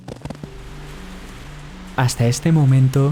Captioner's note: rain